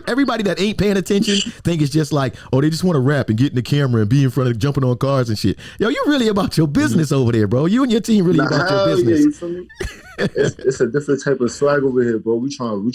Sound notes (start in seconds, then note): 9.6 laughs